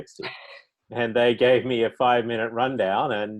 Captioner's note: laughing